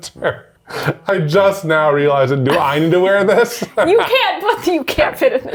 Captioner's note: laughs